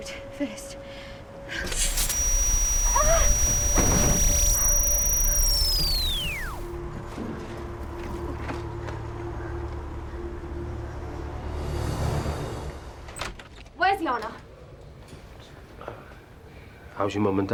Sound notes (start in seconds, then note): 1.6 buzzes; 3.6 high-pitched ringing; 3.6 moans